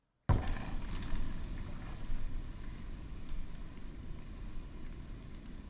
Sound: fire crackling

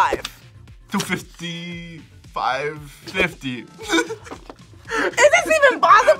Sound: laughs

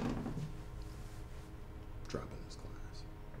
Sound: whispers

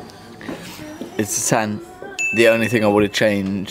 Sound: bell chimes

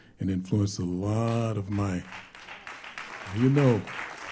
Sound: applause

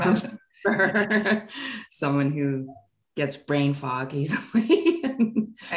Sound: laughing

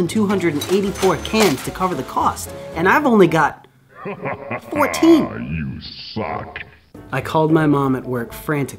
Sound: shao kahn laughing

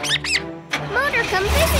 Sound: squeaking

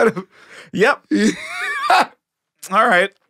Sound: Tony laughing

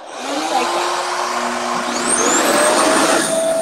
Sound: RevAir whirs

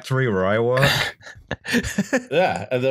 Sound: laughter

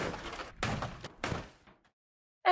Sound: cars crashing

